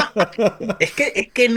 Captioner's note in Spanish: risas